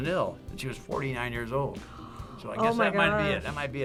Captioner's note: gasps